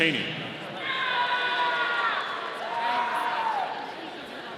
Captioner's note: audience cheering